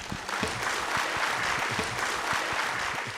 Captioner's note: applause